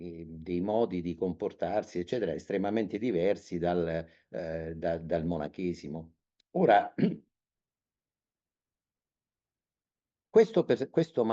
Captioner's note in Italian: schiarire la voce